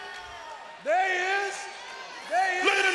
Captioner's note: crowd roars